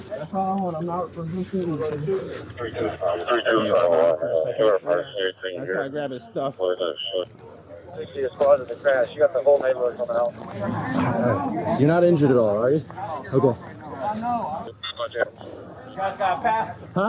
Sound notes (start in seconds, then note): 4.2 radio chatter